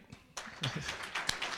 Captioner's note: applause